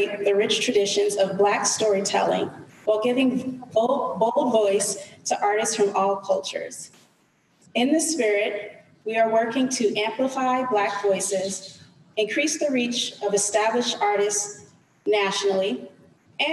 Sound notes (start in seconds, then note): none